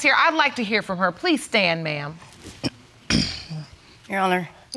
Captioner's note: clears throat